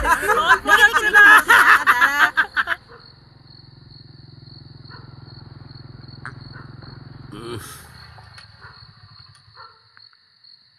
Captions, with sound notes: Can't wait anymore. (Laughs) (Bike approaching)